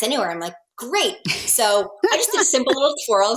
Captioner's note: laughs